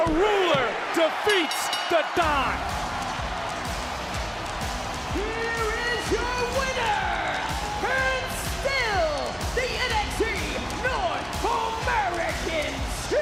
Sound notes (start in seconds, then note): 1.2 bell rings